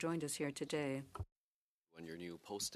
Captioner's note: speaking French